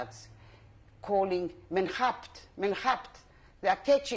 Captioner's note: non-english speech